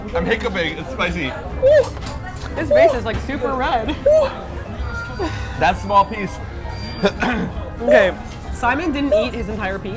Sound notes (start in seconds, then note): 7.0 coughs